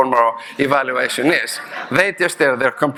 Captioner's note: audience laughing